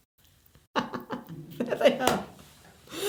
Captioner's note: chuckling